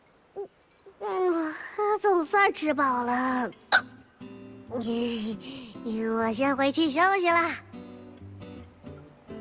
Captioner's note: burp